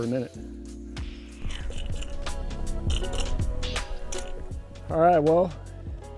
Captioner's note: reel cranking